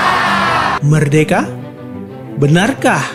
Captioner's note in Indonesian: bersorak